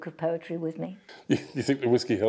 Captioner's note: laughter